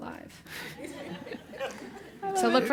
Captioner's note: laugh